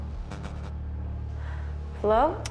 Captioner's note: screen buzzes